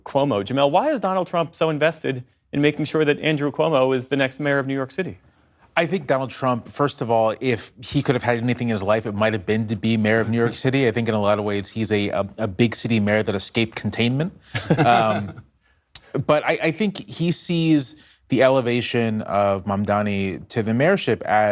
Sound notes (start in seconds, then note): 14.5 laughter